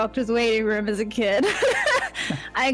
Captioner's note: laughs